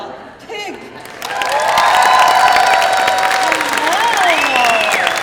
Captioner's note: crowd cheering